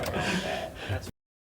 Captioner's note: spectators laugh